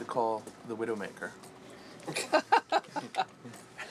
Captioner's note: laughing